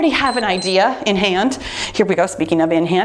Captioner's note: timer beeps